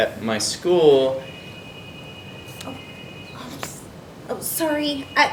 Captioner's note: cellphone rings